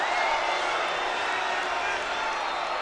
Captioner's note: crowd cheering